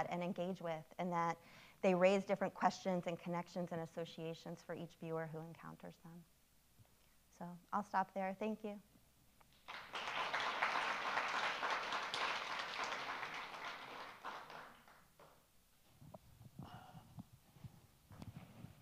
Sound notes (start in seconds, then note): 9.6 audience applauding